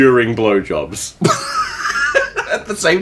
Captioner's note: laughing